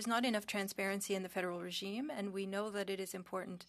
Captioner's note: speaking French